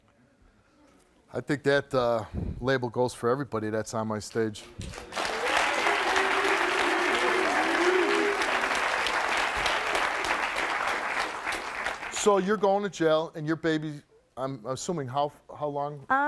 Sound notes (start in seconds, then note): 4.6 audience clapping and cheering